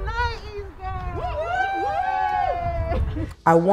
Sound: cheering

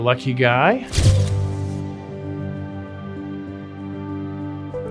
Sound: camera snapping photo

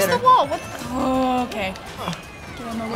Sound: grumbles

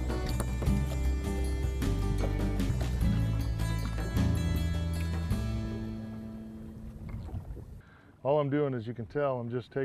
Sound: splashing

